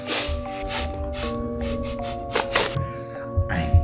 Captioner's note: sniffing